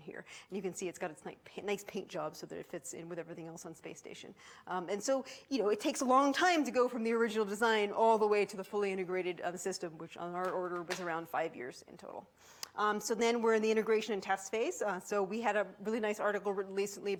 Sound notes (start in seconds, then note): none